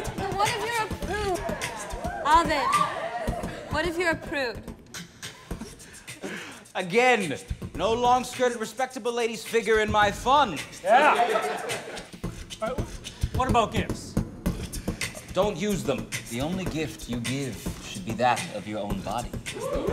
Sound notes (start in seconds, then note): 11.1 laughter